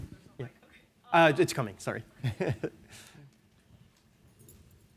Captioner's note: chuckles